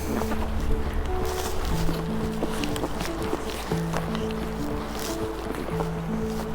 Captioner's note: sound of walking through the forest